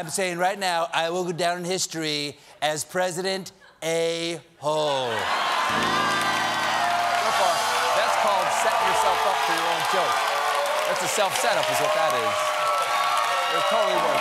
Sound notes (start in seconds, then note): 9.3 cheers and applause; 9.3 piano riff